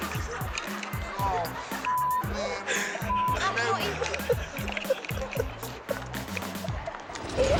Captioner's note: beep